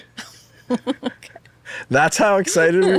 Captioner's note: chuckling